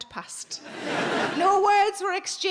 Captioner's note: audience laughing